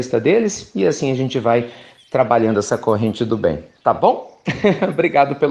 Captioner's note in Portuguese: Risos